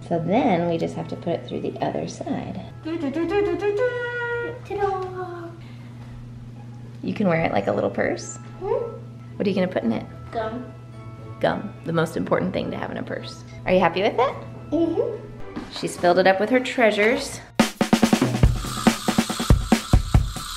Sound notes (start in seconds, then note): 2.7 imitates trumpet sounds; 17.5 drumming beat